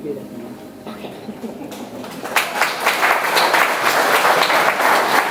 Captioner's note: audience applauds